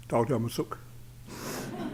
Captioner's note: foreign language; laughter